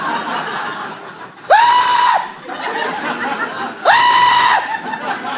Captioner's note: blood curdling screeches